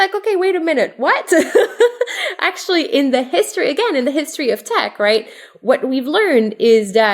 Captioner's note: laugh